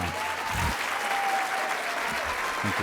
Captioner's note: applause